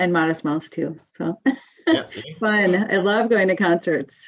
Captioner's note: chuckles